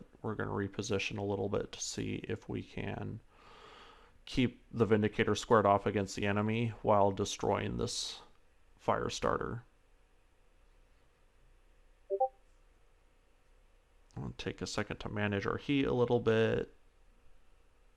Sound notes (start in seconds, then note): 12.1 beep bewp